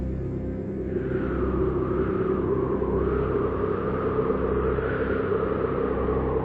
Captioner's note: wind blowing